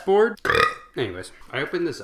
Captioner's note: super cool belch